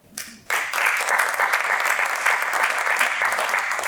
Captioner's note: applause